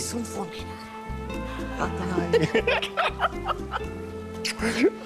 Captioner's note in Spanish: Risas